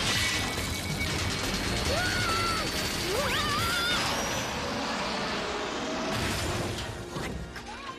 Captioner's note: screaming